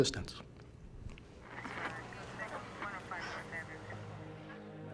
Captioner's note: officer on radio